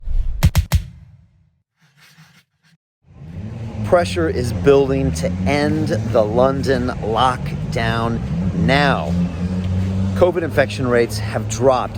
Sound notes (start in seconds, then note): 0.0 logo whooshing